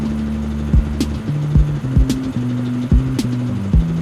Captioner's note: VIDEO transition noises